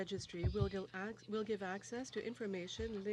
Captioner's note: speaking french